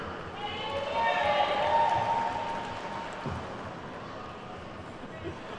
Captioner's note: attendees whooping and clapping